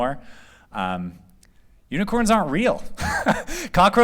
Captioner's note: laughter